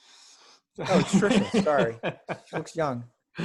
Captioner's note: laughs